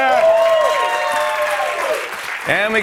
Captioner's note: cheers and applause